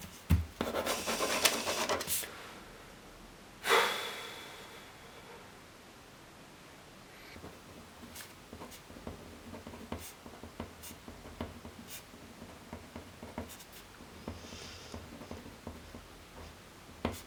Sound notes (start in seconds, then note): 0.6 crossing words out; 3.6 sighing